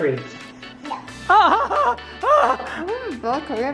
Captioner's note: gasps